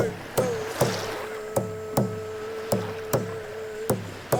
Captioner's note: water lapping